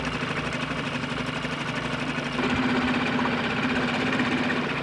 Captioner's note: engine rumbling